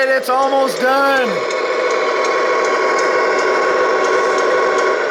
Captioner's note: truck engine roars